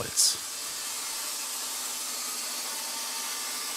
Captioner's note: sawing screech